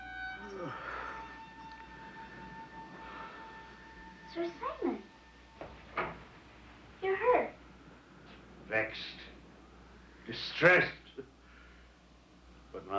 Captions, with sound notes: (Sir Simon groans) - Sir Simon. You're hurt. - Vexed. Distressed, but...